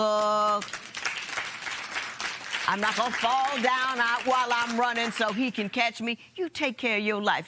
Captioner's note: applause